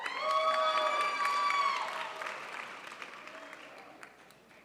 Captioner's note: crowd applauds